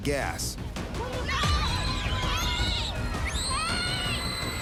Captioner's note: children screaming